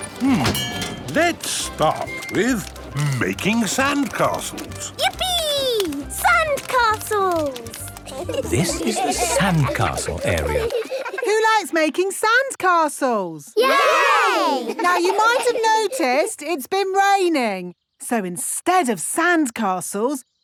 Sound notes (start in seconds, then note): 13.6 laughing